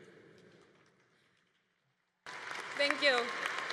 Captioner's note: congregation applauding